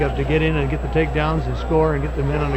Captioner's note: atmosphere buzzing